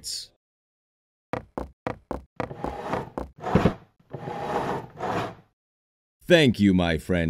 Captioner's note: chair scraping noises; footsteps